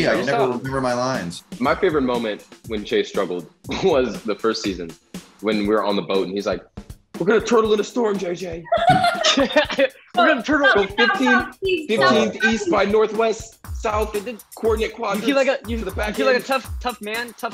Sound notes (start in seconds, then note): 8.6 laughs